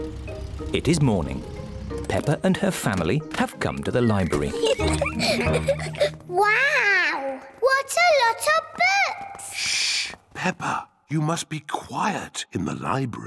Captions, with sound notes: It is morning. Peppa and her family have come to the library. (LAUGHTER) Wow! What a lot of books! Shh! Peppa! You must be quiet in the library.